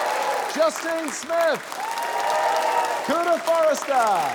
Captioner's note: cheering, applause